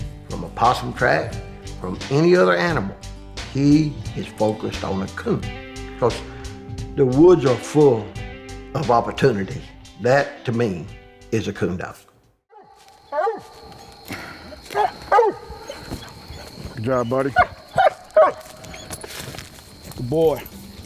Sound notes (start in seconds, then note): 12.5 dog barking; 17.7 dog barking